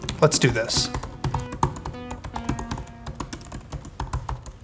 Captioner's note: keys tapping